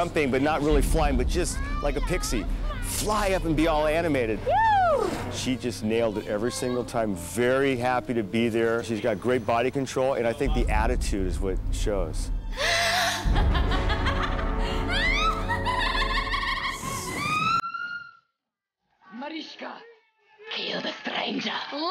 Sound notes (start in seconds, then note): 12.6 laughing